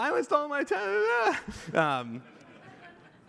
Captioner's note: laughter